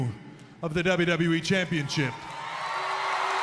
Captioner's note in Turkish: Alkışlar